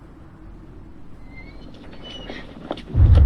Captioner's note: door opens